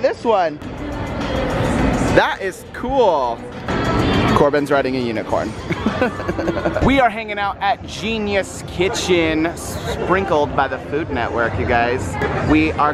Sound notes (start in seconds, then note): 5.6 laughs